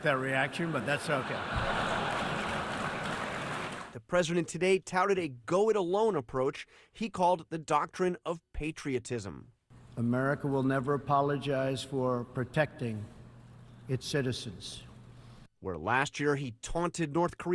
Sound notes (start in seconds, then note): 0.6 laughter